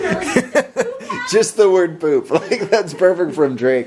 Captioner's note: laughing